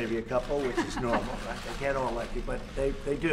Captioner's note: laughs